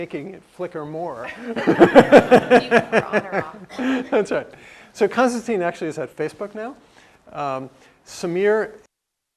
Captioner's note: laugh